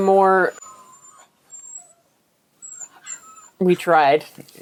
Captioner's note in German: Hund jammert